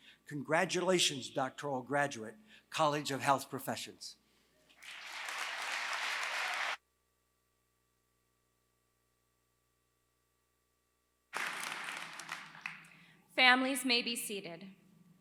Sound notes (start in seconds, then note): 4.7 applause